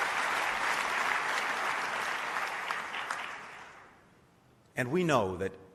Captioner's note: applause